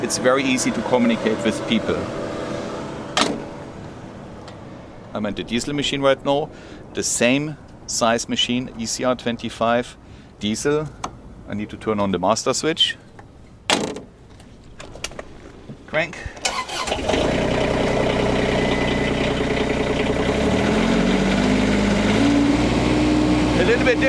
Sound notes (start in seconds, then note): 16.7 loud engine noise